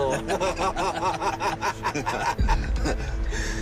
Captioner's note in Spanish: Risas